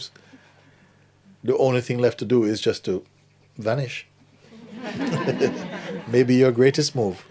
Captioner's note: laughter